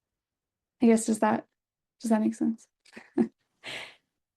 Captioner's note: chuckles